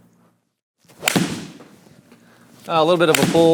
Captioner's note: golf club thwacks